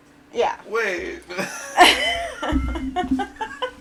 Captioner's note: laughing